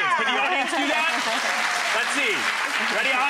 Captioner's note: audience applauding